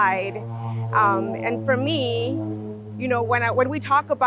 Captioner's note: loud airplane engine above